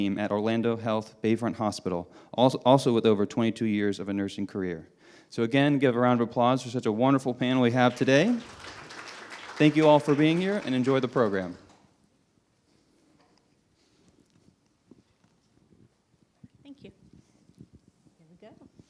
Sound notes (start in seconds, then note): 7.6 audience applauding